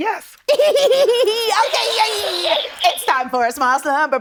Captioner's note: giggles